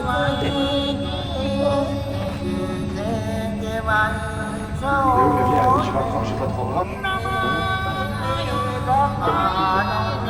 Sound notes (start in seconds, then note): 3.5 in french; 6.9 soft music